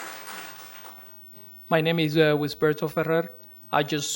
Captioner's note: applause